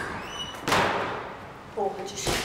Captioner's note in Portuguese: som de porta fechando